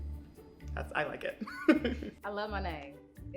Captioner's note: laughs